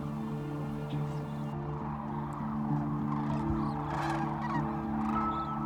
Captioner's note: crane calls